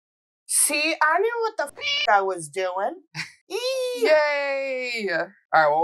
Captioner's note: meow